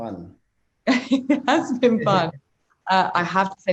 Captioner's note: laughs